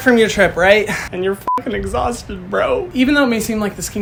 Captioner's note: beep